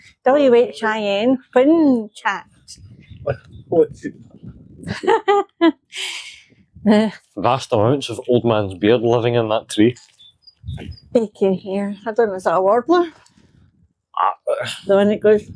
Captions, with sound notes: W. H. I. N whinchat. [Laughter] The vast amounts of old man's beard living in that tree. [Birdsong] Yo can here, That one was a worbler. The one that goes...